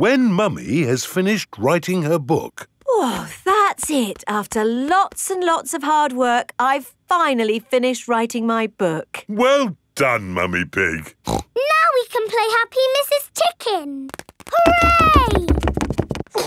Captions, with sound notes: When Mummy has finished writing her book. Oh! That's it! After lots and lots of hard work, I've finally finished writing my book! Well done, Mummy Pig! (SNORTS) Now we can play Happy Mrs. Chicken! Hooray!